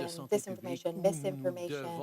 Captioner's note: speaking French